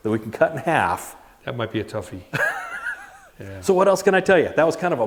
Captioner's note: laughs